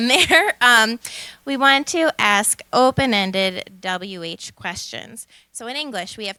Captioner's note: laughter